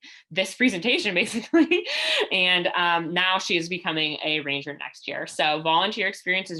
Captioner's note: laughter